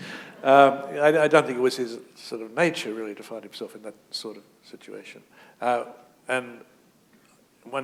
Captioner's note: chuckle